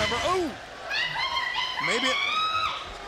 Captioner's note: screaming